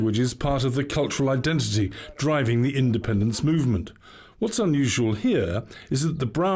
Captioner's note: speaking welsh